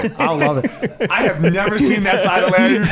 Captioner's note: laughs